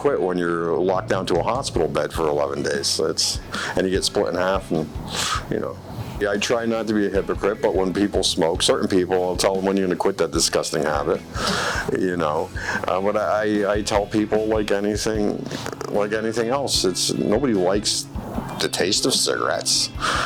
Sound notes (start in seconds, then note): 12.5 chuckling and breathing in; 15.4 stuttering; 20.0 chuckling